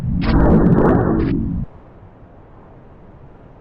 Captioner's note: wind whooshing